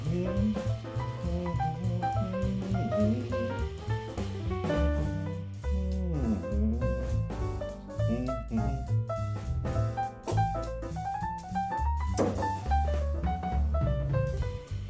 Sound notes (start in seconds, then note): 0.0 humming; 2.5 upbeat jazz music; 9.7 spitting; 11.8 upbeat jazz music